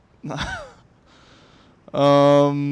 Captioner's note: laughs